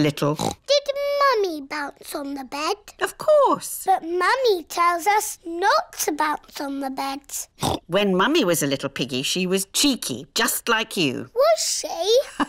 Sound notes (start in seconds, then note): 7.6 oinks